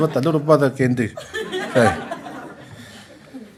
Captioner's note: laughter